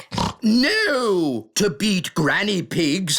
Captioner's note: snorts